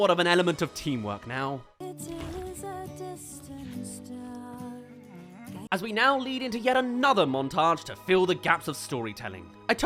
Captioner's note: eating